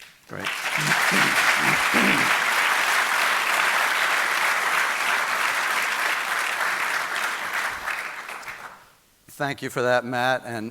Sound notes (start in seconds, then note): 0.3 audience applauding